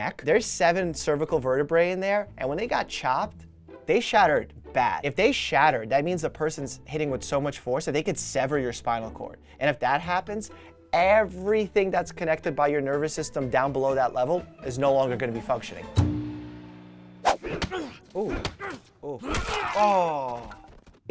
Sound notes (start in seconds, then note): 15.8 string plucking heard previously; 17.2 swooshing again; 17.3 grunting, smacking